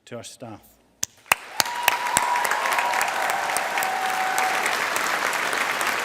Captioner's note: audience applauding